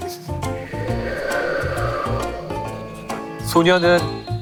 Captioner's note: A sound effect of wind